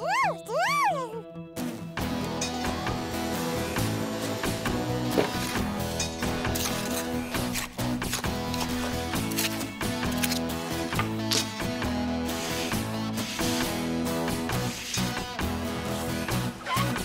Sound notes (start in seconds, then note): 5.9 scraping; 12.2 swishing